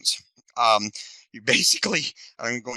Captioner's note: laughing